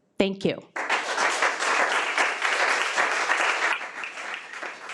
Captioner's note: audience applauds